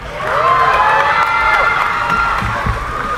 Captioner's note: cheering